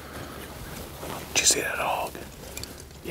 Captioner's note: whispering